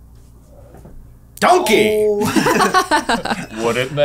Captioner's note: laughter